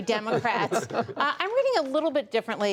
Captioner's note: laughter